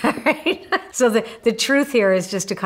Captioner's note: laughs